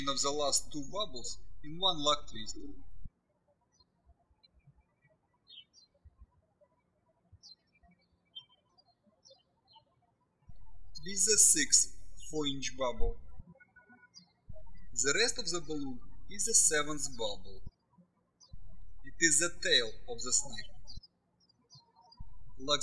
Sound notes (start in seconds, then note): 3.2 birds chirping